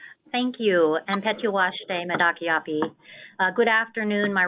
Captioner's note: speaking in a foreign language